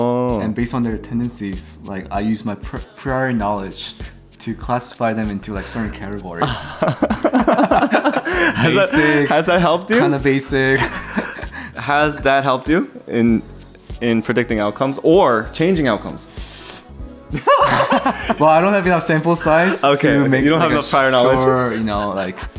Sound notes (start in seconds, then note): 6.4 both laugh